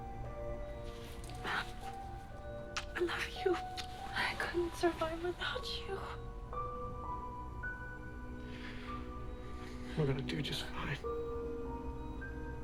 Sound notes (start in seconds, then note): 2.3 lips smooching; 7.1 gentle tense music